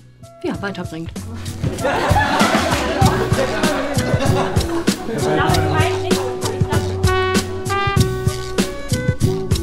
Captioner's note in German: Gelächter und undeutliche Gespräche, unterlegt mit jazziger Musik